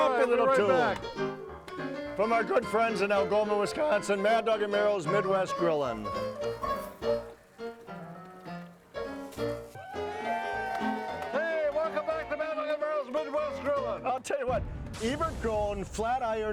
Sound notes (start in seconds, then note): 0.2 ragtime piano music continues; 9.6 crowd cheering; 9.8 ragtime piano music